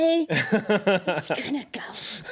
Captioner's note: Eric laughs